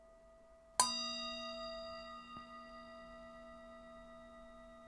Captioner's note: initiation Meditation Bell Sounds: 2 of 3